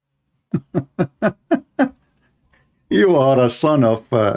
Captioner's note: Ketawa